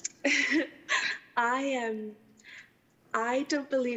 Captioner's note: chuckling